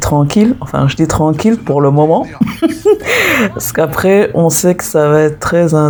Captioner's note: laughs